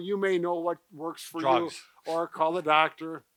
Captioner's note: laughs